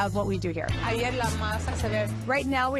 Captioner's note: speaking Spanish